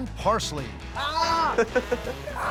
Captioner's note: laughter